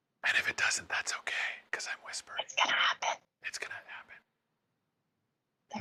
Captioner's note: whispering